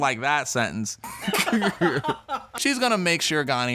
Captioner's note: people laughing